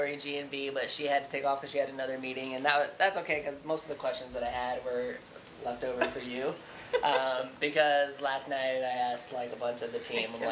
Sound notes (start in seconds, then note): 6.8 laughing